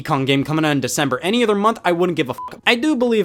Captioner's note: beep